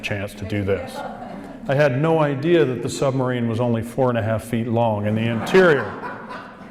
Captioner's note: audience laughs